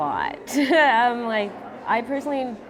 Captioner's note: laughs